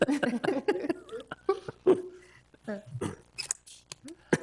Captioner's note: board members laugh